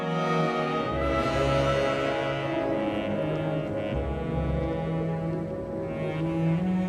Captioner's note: gentle pensive music; wind howling